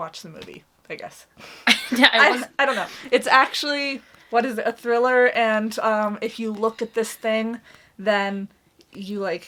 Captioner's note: laughs